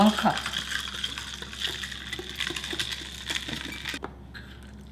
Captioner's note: spoon stirring